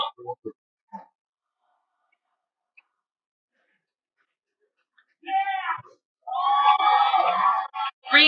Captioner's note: cheering